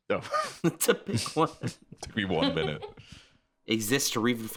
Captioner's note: laughing